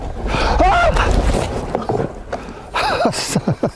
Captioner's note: gritando; riendo